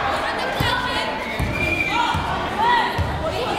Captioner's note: yelling